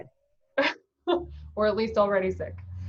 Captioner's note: laughing